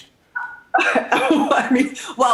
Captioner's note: laughing